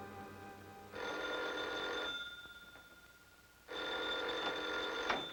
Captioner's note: phone ringing